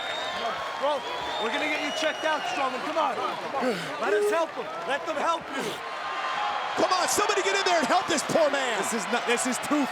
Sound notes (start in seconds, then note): 5.7 crowd cheering; 7.2 audience applauding